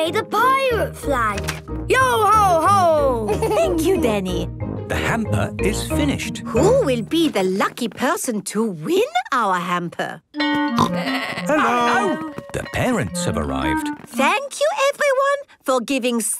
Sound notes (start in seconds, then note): 3.3 Danny laughs; 12.1 school bell ringing